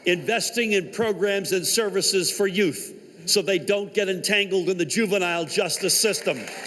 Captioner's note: applause